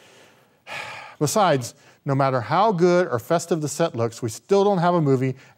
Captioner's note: sighs